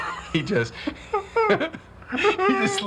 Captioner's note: laughs